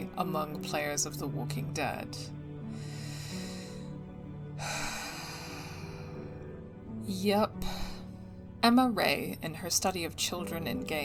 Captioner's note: another deep sigh